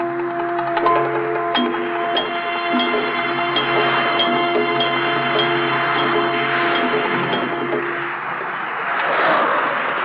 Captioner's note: sounds of traffic